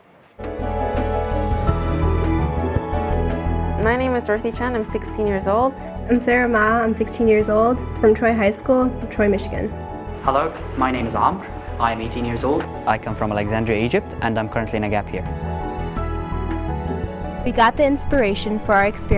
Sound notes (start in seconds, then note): none